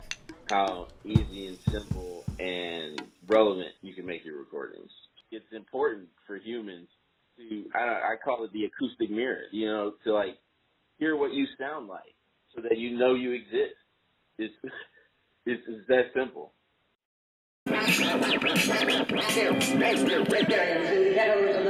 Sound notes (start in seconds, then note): 14.6 laughs; 17.8 record scratcing, muffled talking